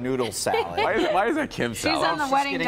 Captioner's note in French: laughter